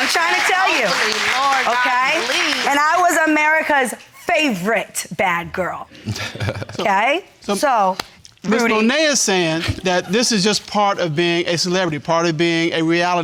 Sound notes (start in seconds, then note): 0.0 audience applauding; 6.0 laughs